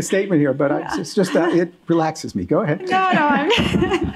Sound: laughing

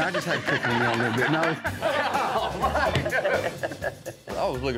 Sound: all laughing

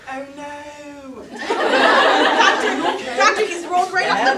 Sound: audience laughter

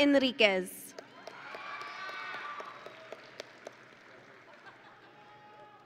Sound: audience and graduates cheering

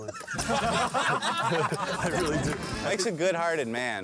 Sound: laughter

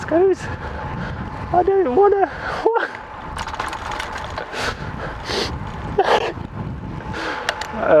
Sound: tears of laughter

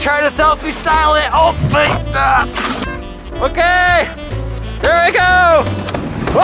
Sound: yelling

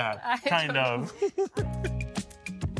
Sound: people laughing

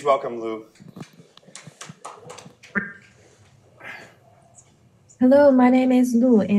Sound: audience clapping

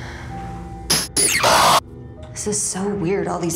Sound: scary sounds

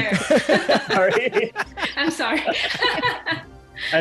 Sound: laughter

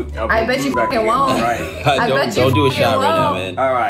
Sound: beep

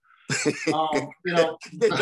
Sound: laughter

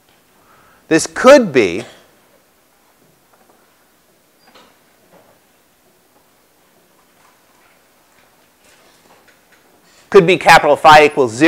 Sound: cough

